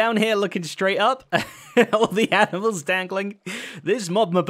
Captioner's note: chuckles